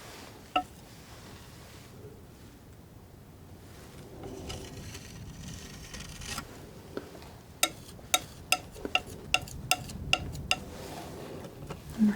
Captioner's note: tapping